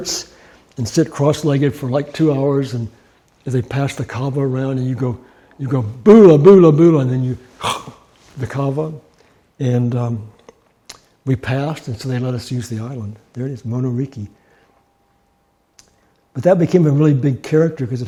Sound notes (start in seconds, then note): 7.5 huffing